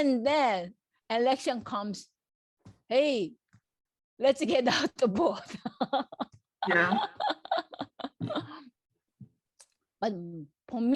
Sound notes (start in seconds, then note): 6.6 laughs